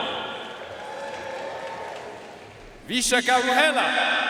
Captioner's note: audience cheering and applauding